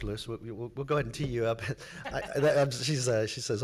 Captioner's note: laughs